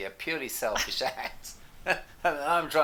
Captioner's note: laughs